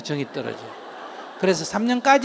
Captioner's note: audience Laughter